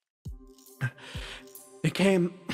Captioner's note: gasp